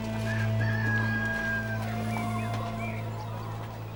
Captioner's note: rooster crows